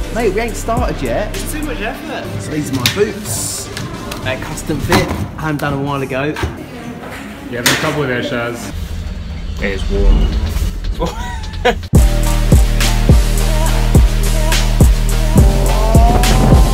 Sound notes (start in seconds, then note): 11.0 laughs